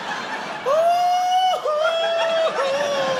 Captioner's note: wails